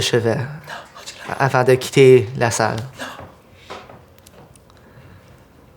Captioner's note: Riz'shar, whispering